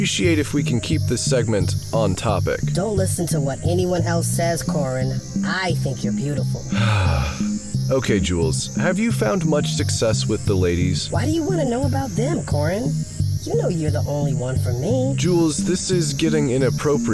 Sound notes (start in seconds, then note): 6.7 sighs